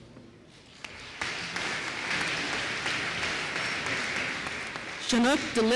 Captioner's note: applause